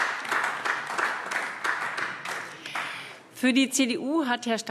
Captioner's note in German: Beifall AfD